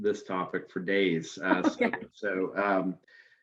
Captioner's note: chuckles